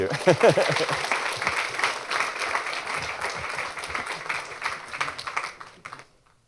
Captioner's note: applause